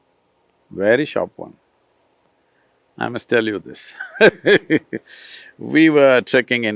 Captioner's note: laughs